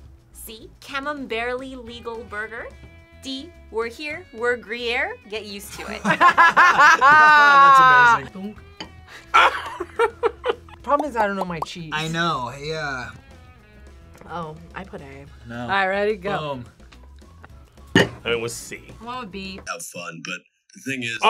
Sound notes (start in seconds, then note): 5.7 both laugh; 9.6 laughs